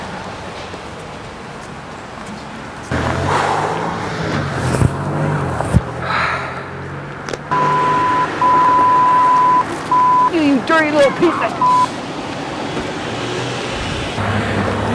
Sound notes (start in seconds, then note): 7.5 beep beep beep